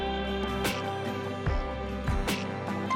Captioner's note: spritzing